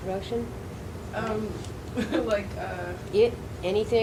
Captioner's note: laughs